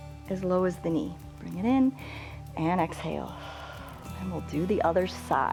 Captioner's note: exhales